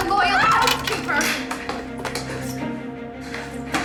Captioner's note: scuffling